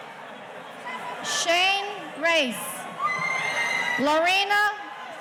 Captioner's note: audience cheering